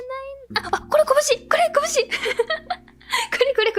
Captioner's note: laughs